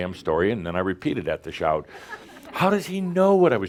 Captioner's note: a few chuckles